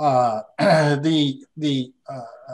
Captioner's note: clears throat